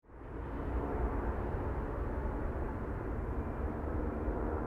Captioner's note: outdoor ambience